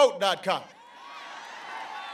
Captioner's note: applause